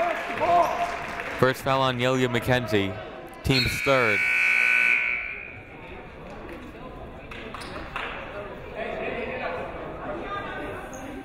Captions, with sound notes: (crowd clapping) First foul on Neilia McKenzie. Team's third. (buzzer ringing) (people talking in the crowd)